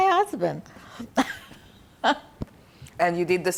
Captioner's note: laughing